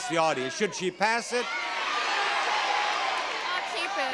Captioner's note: audience shouting